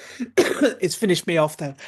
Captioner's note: coughing